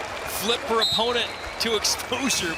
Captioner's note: whistle blows